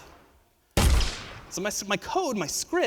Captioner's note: gun fires